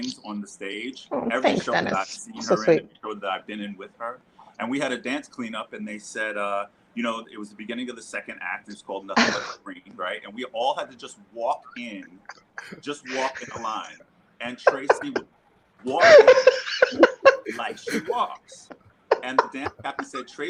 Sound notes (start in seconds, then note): 15.9 laughing